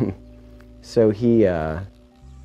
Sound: chuckling

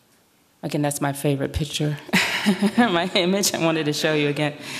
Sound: laughs

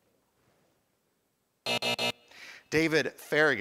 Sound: time buzzer

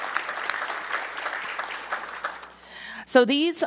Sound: applause

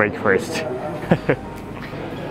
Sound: chuckles

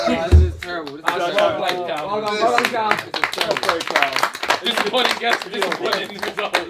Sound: all chattering; all clapping; all laughing

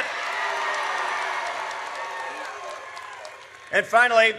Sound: audience cheers

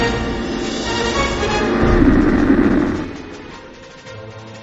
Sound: distant engine revs

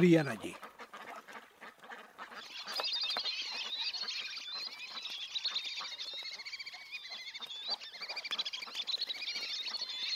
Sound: birds chirps and calls, ducks quacks

